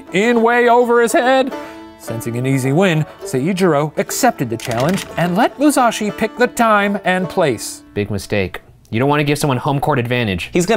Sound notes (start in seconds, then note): none